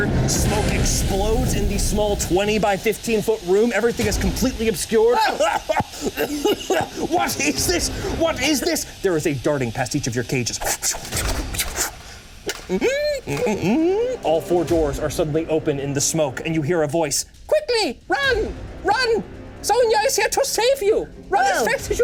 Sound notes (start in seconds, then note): 5.1 coughing; 11.0 cage doors squeak